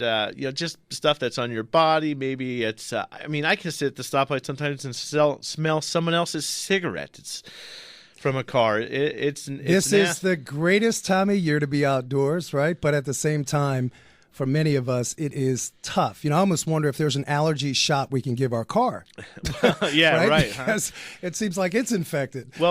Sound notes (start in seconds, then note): 19.2 both laugh